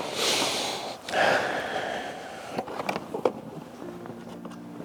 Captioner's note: sighs